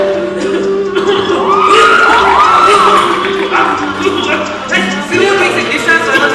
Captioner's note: coughs